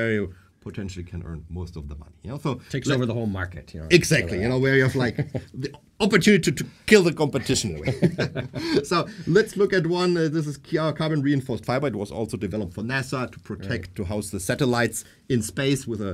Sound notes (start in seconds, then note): 7.3 laughing